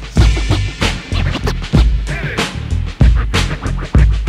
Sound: record scratching

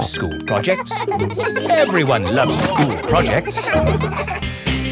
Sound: children laughing

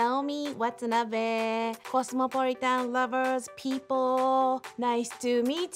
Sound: speaking in foreign language

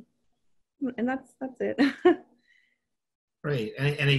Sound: chuckling

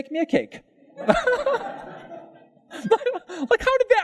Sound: pastor and Audience: Laughter

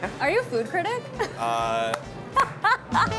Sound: laughing

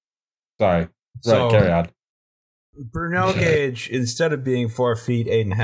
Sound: laughter

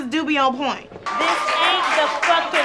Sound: cheering

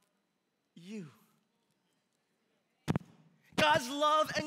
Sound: congregation murmuring in agreement

